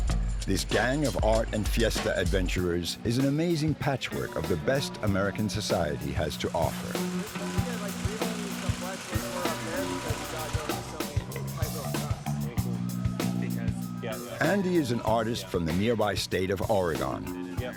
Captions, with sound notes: This gang of art and fiesta adventurous is an amazing patchwork of the best American society has to offer. (upbeat music) (muffled chatting) Andy is an artist from the nearby state of Oregon.